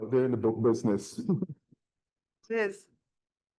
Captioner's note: people chuckling